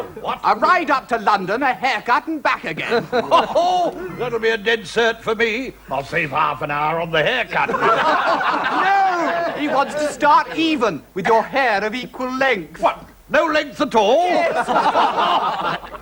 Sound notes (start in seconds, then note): 7.6 laughter